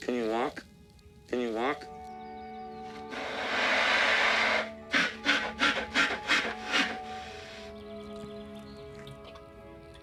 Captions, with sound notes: Can you walk? Can you walk? (bear huffing)